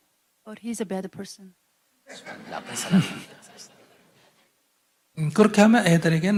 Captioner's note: audience/ Laughter